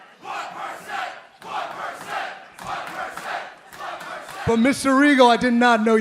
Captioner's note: crowd cheering